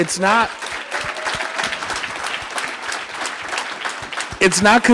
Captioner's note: audience applauding